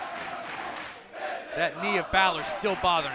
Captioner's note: fans chanting